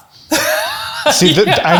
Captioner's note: chuckles